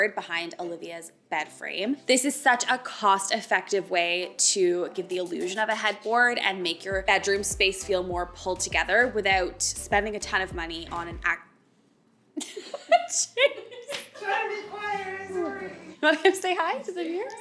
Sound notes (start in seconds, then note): 12.5 all laughs